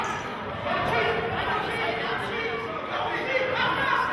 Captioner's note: yelling